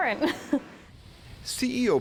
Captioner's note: laughter